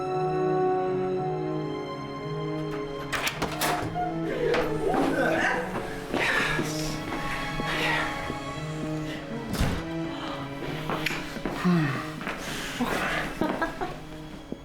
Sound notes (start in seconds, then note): 11.5 gasp